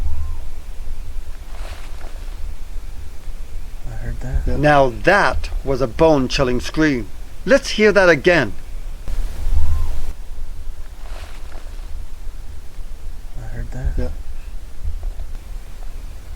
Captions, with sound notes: (Animal vocalizing) - I heard that. - Now that was a bone-chilling scream. Let's hear that again. (Animal vocalizing) - I heard that. - Yeah.